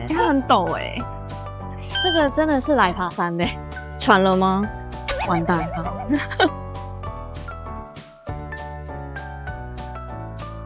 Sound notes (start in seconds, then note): 5.3 hehehehe